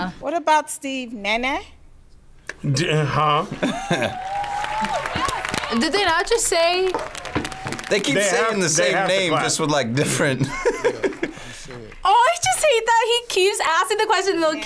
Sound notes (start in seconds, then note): 3.4 laughs; 9.9 laughs